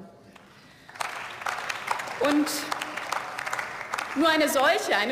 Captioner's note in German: Beifall